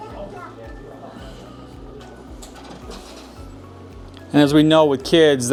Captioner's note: people chattering distantly